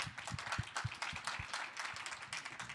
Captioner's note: applause